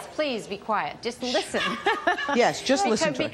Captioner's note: laughs